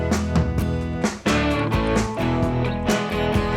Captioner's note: beeping